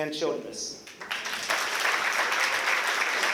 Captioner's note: applause